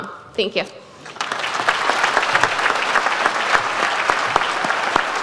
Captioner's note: audience applauds